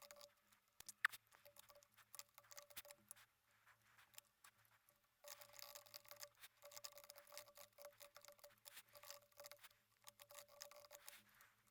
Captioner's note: typing sounds